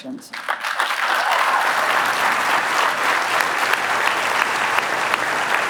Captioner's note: applause